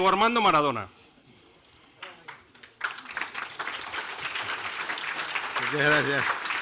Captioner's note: applause